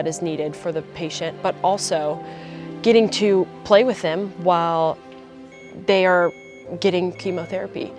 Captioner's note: sound of beeping